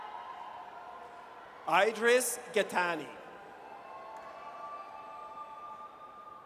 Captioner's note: audience cheers